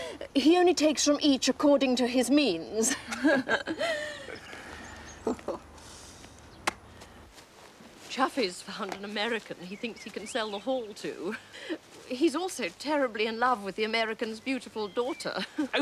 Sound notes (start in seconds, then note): 2.8 laughs